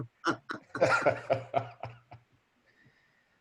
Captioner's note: laughs